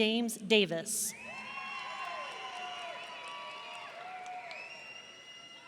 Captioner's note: audience cheering